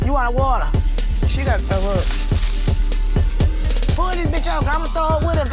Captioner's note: bag rustling